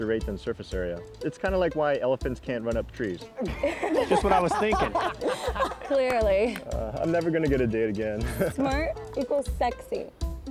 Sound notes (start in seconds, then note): 3.4 everyone laughs